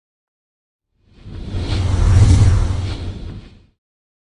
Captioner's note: logo whooshing